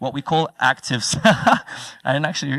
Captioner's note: laugh